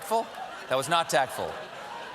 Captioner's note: laughter